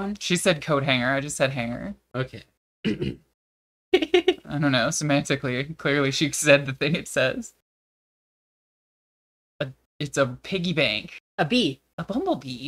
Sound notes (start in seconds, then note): 2.8 clears throat